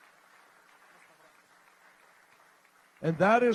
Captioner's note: applause